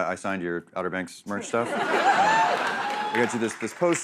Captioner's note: laughter